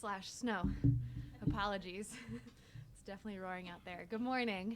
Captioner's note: chuckles